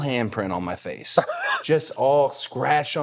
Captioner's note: The Undertaker laughing